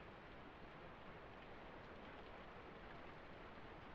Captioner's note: rain continues to fall